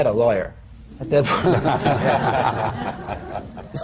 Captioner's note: laughter